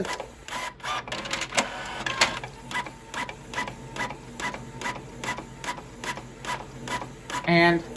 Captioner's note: document continues printing